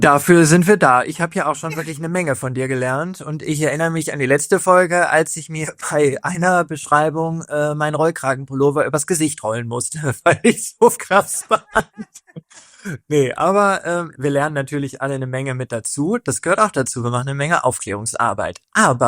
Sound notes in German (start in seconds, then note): 11.2 gelächter